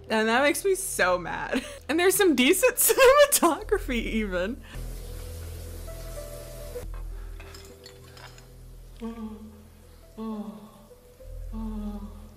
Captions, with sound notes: And that makes me so mad. And there's some decent cinematography even. (guy moaning)